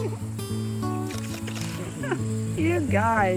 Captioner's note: camera shutter clicks